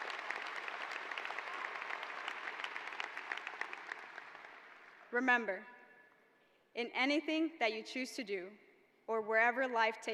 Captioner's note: applause